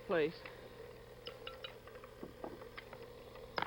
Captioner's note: whirring